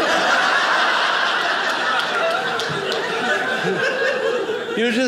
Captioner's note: audience laughing